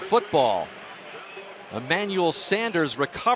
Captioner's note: pa announcement